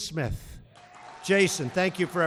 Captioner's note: applause